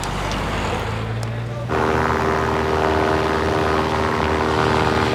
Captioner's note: aeroplane buzzing